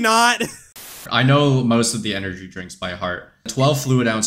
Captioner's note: static